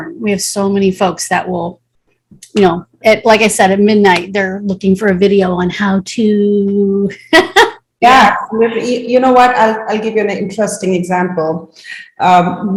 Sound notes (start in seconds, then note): 7.2 chuckles